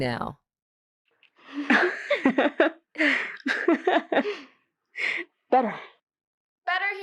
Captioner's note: laugh